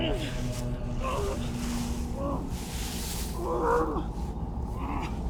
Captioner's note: Arawn groaning